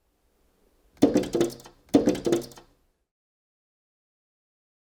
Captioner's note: bird knocks